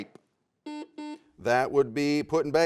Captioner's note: buzzer sounds